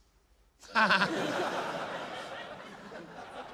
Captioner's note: laughter